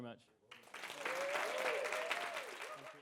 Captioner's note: audience applauds